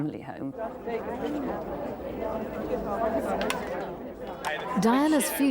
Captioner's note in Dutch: onduidelijk gebabbel